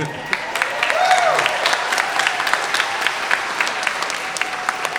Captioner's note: everyone applauding